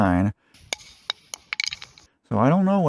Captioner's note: dropping sound